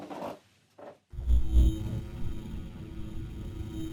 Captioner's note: buzzing